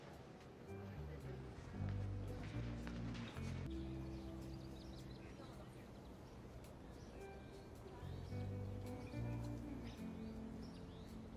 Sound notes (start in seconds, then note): none